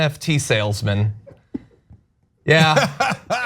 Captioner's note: laugh